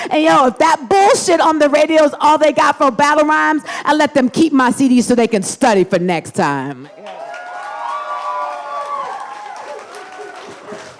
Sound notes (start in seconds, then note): 6.9 audience cheers and applauds